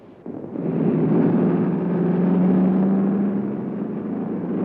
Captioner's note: trucks rumbling